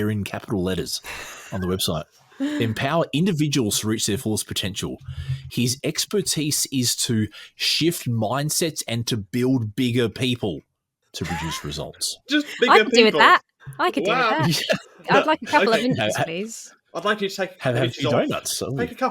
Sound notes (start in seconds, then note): 12.3 laughs